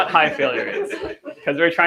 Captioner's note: laughter